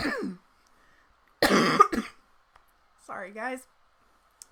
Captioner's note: coughs